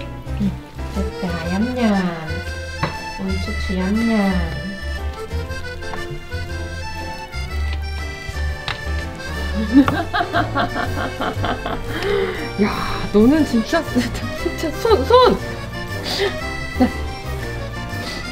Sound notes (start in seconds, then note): 9.3 laugh